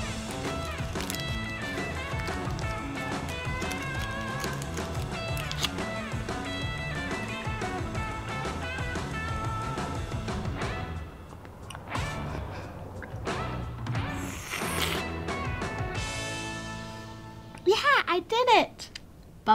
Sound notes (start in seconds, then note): 0.4 wrapper crinkling; 10.8 bright upbeat music continues